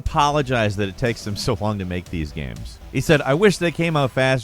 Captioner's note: laughs